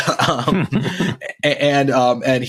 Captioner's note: both laughing